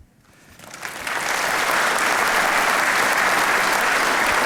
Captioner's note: audience applauding